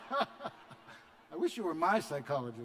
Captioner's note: laughter